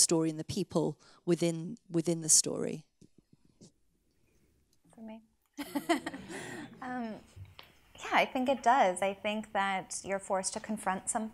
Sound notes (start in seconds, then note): 5.6 laughs